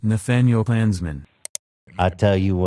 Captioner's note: click